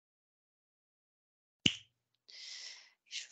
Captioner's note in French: claque des doigts